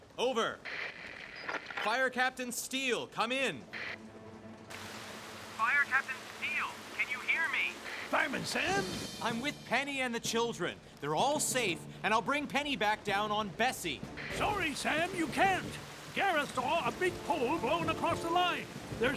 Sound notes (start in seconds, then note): 4.6 static Crackles; 5.5 on Radio